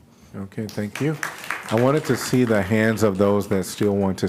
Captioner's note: applause